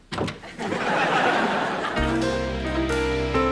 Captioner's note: laughter